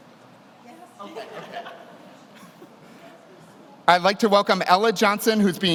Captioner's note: laughs